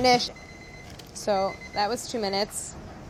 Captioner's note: alarm ringing